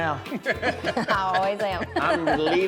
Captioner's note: laughter